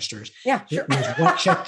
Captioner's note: laughs